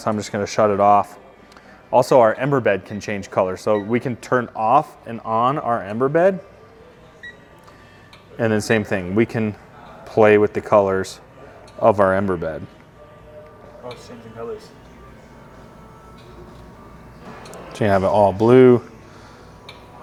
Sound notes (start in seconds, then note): 7.0 remote beeps